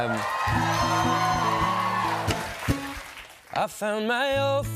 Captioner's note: cheers and applause